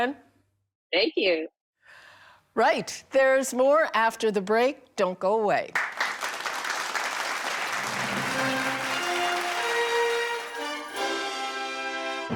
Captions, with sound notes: - Thank you. - Right, there's more after the break. Don't go away. [audience applauding] [theatrical music]